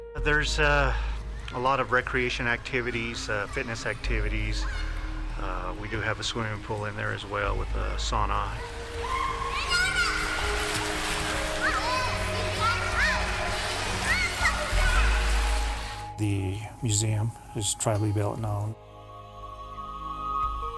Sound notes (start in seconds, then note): 9.0 children chattering; 9.0 water splashing